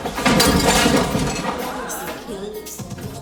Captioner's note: clatters